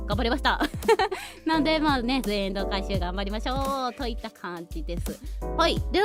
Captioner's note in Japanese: 笑い